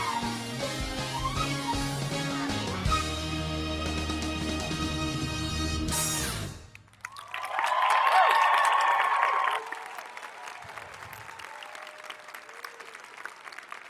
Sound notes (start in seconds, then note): 6.7 audience applauding; 7.0 audience cheering